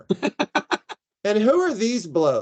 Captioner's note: laughing